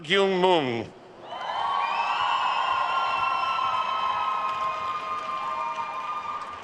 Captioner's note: attendees cheering and applauding